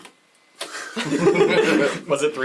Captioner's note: all laugh